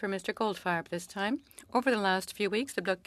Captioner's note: speaking French